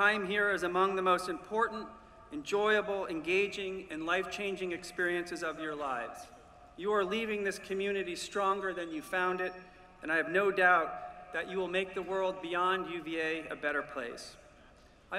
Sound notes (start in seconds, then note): none